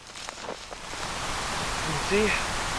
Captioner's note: footsteps in snow